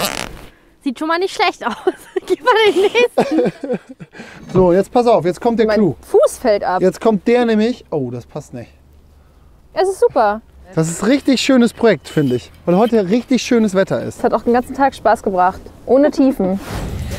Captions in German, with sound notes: - Sieht schon mal nicht schlecht aus. *Gelächter* - So, pass auf. - Mein Fuß fällt ab. - Jetzt kommt der. Oh! Das passt nicht. - Es ist super. - Das ist ein schönes Projekt, finde ich. Und weil heut auch richtig schönes Wetter ist. - Hat ja auch den ganzen Tag Spaß gebracht. Ohne Tiefen.